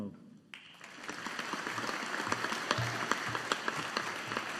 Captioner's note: audience applauding